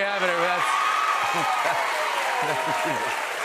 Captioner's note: cheers and applause